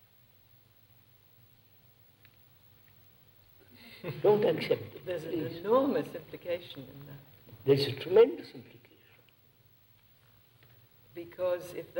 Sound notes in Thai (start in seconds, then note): 4.0 เสียงหัวเราะ